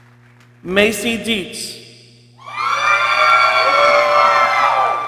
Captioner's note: people cheering